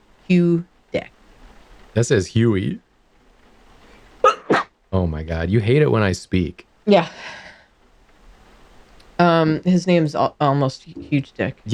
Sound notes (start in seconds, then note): 4.2 sneeze